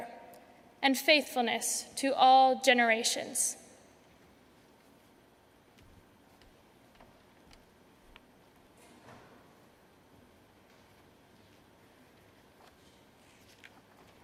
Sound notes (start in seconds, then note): 3.6 A pause